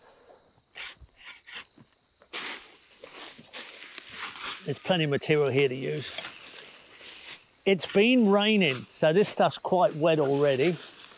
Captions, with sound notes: [tools scraping] [material rustles] There's plenty of material here to use. It's been raining so this stuff's quite wet already.